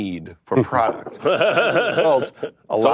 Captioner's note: laughs